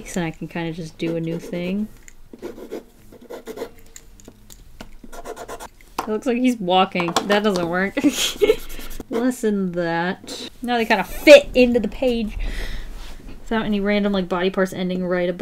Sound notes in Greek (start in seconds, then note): 2.2 Ήχος μολυβιού στο χαρτί; 7.9 Γέλια